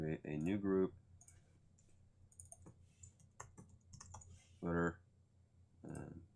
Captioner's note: keyboard keys tapping